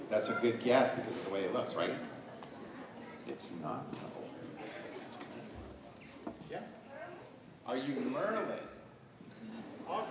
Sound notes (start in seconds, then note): none